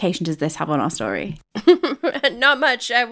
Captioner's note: laughing